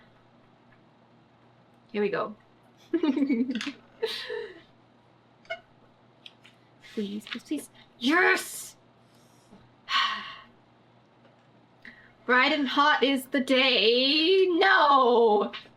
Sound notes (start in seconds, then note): 4.0 laughs; 9.9 sighs